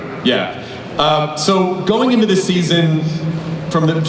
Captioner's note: voiceover